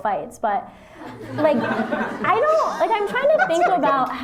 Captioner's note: laughter